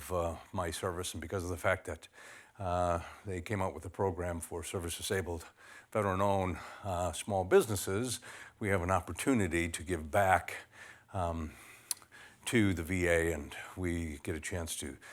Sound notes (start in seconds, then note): none